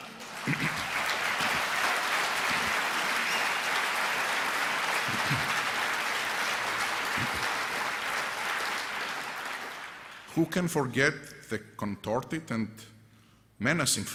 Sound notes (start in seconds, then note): 3.1 applause